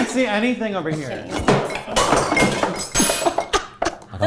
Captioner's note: knocking things over; laughs